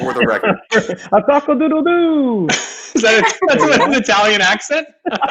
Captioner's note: mimicking a rooster